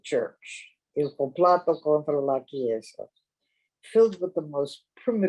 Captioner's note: speaking in a foreign language